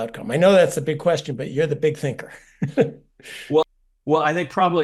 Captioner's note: laugh